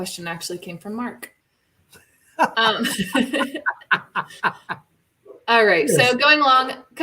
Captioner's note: laughter